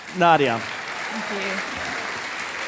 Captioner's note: audience applauding